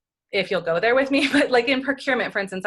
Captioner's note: laughs